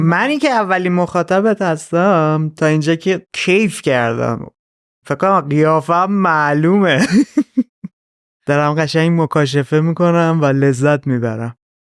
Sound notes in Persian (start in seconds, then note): 6.9 خنده